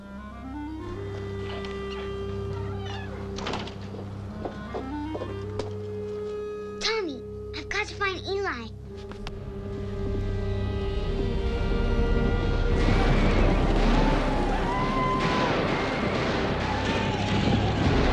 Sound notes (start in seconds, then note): 0.0 quick somber music; 2.8 door slams; 9.7 hooves thundering; 9.7 intense foreboding music; 12.8 gunshots booming; 13.5 posse whooping